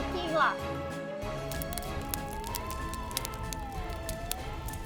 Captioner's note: typing